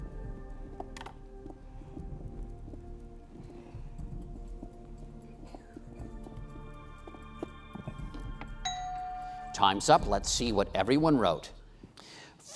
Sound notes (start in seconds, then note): 0.3 intense music; 8.6 bell dings